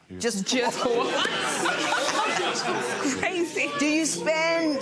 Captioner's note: laughing